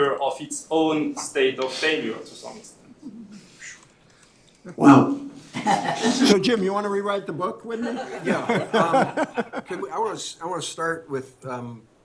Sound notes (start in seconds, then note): 7.7 laughter